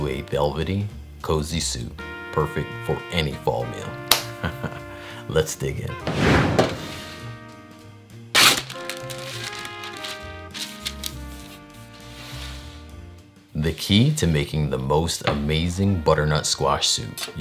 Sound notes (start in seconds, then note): 6.0 pan sliding; 8.3 paper ripping